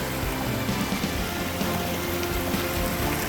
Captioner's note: sound of mountain stream